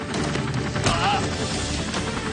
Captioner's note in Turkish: adam bağırır